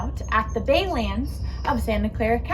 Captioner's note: birds chirping